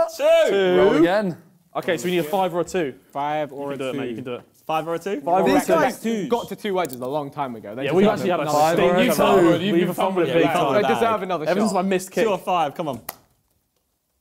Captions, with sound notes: - Two. - Two. - Roll again. - Okay, so you need a five or two - Five or two. - You can do it man, you can do it. - Five or two. - This guy is huge. - Got to two wedges a long time ago. (crowd mumbling) - They deserve another shot. - Everyone is my missed kid. - Two or five, come on.